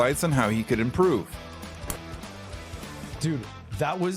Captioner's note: loud click noise